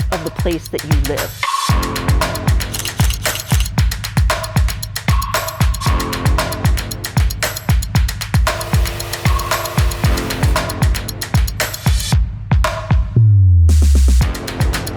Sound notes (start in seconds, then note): 2.8 camera shutter snapping; 5.9 exciting rock music continues; 8.6 drone whirring